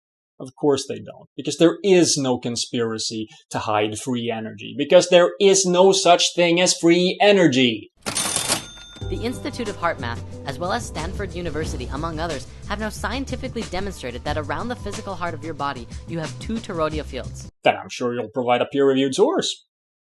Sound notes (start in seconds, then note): 8.0 ka-ching!